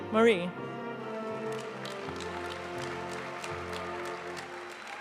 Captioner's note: audience applauding